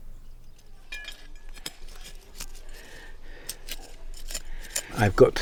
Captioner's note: garden shovel clanks